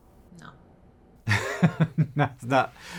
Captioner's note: chuckles